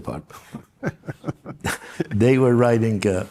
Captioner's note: laughs